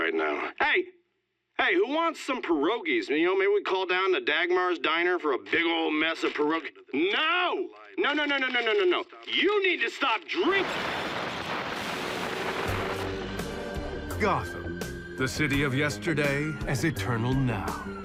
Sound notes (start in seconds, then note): 10.5 static; 12.0 smooth music